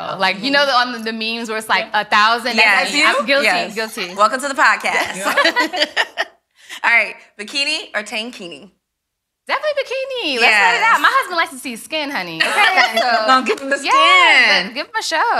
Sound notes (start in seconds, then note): 4.8 ladies laughing; 12.4 laughs